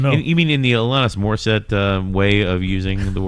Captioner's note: uh